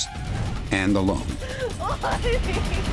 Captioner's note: sobbing